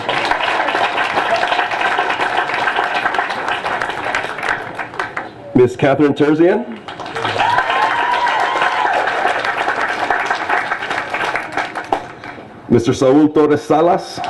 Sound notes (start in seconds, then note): 0.0 applause; 6.8 applause